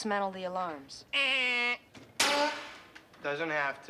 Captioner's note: mimics buzzer